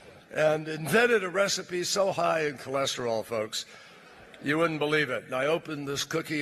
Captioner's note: laughter